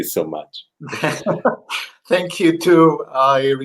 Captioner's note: laughter